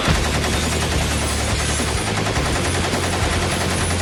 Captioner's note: shots firing